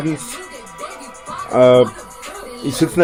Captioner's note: uhhhh